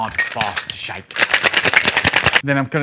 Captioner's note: cocktail shaker rattles